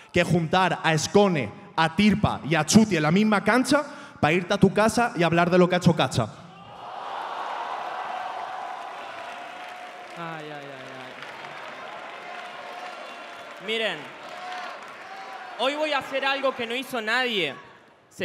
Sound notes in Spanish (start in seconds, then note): 6.9 Aplausos